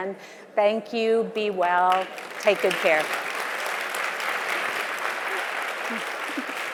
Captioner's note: audience applauding